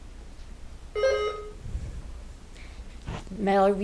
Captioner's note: buzzer ringing